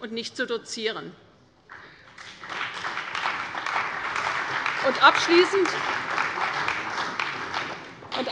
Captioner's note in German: Beifall bei der CDU und dem BÜNDNIS 90/DIE GRÜNEN